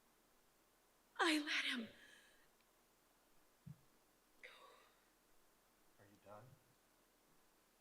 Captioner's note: exhales sharply